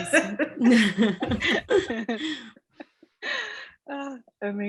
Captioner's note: laughter